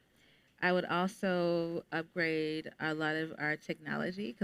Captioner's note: none